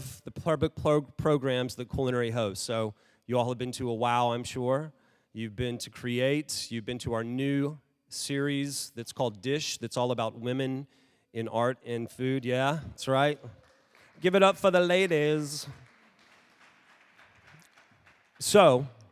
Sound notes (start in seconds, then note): 13.1 audience cheering; 16.4 audience applauding